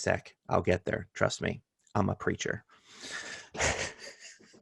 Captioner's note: laughter